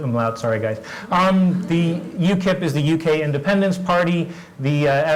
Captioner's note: laugh